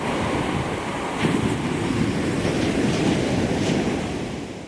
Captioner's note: waves crashing